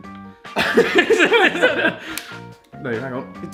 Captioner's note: both laughing